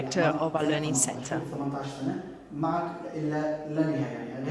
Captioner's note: non-english speech